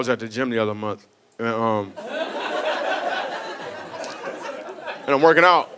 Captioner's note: audience laughing